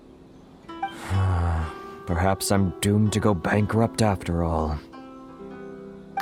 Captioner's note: sigh